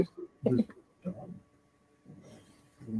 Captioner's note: laughing